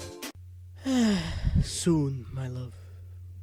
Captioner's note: sigh